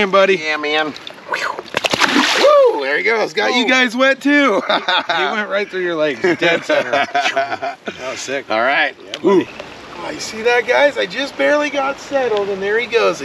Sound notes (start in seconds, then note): 0.8 fish splashing; 2.2 whooping; 6.1 laughing; 9.7 water flowing